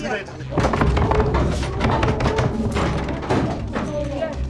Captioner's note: banging on door